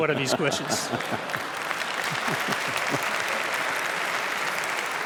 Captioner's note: applause